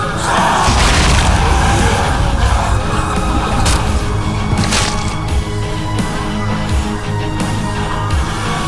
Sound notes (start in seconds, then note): 5.4 explosion